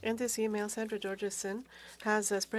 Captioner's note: speaking FRENCH